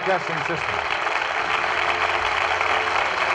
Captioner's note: audience applauding